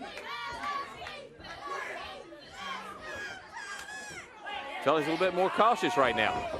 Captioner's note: crowd chatter